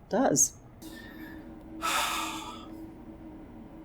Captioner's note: man sighing